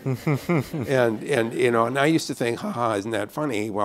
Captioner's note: laughter